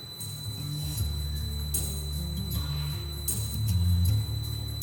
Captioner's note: motor whirring; upbeat music continues